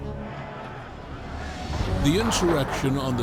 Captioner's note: crowd shouting